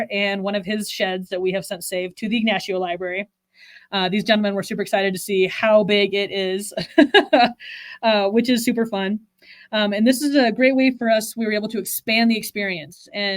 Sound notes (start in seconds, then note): 6.8 laughs